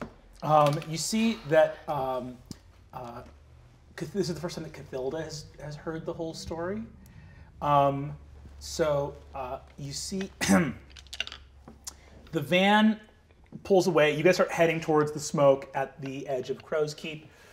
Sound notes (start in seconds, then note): 10.3 coughing